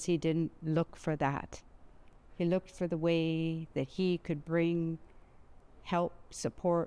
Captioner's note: speaking Alternate Language